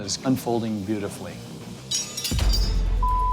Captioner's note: metal clatters